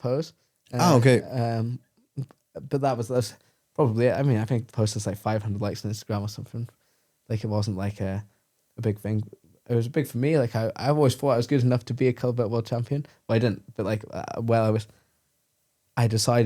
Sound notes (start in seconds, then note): 0.8 laughs